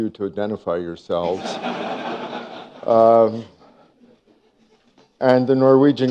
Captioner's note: laughter